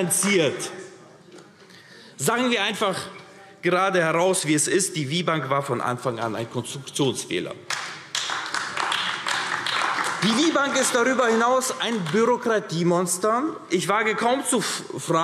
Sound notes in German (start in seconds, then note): 0.5 Beifall AfD; 7.6 Beifall AfD